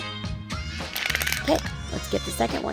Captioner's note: crumpling